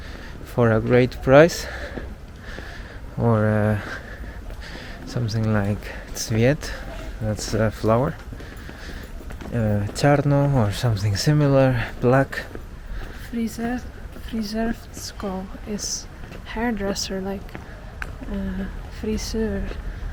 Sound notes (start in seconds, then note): 12.2 in German